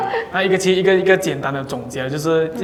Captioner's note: laughter